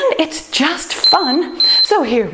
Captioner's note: timer beeps